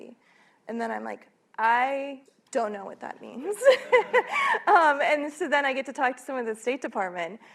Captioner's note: laughs